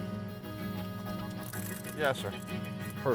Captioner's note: chuckles